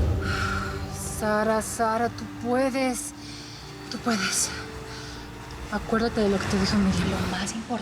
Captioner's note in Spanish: exhala